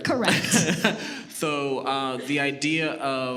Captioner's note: laughs